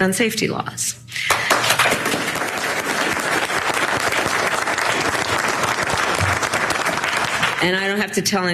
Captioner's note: applause